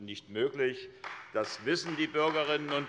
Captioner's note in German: Allgemeiner Beifall